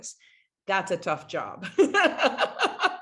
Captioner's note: laughs